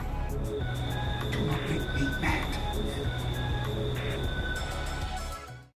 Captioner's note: crickets chirping